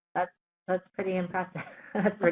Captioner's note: laughs